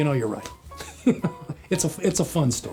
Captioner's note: laughs